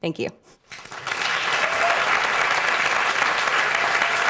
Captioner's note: applause